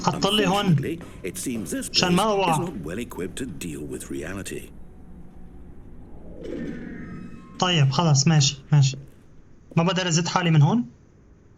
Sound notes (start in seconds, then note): 3.1 door creaking; 7.0 footsteps